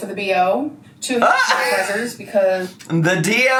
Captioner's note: laughs